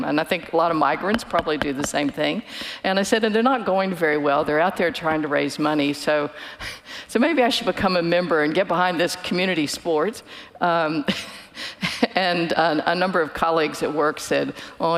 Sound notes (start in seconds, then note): 11.3 chuckles